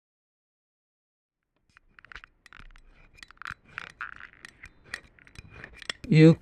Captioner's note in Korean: 쇳소리 같은 소름돋는 소리가 난다